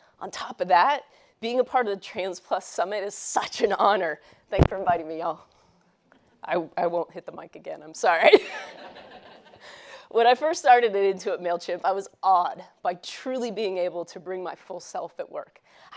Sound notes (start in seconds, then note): 8.4 laughs; 8.5 audience laughs